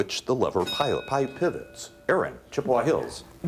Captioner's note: bell dings